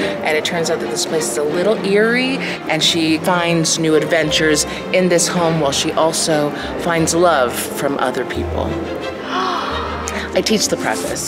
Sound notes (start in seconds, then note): 9.2 gasps